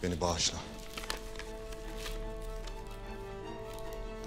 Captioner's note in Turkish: Kâğıt sesi